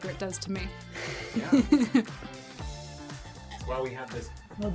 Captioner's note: laughs